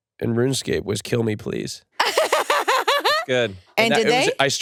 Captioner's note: laughs